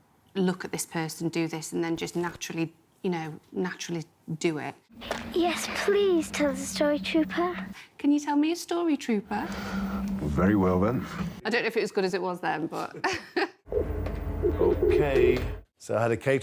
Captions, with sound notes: "Look at this person, and do this. And then just naturally do it." - Yes, please tell us the story Trooper? - Can you tell me a story Trooper? - Well, very well then. - I don't know if it as good as it was then but... (laughing)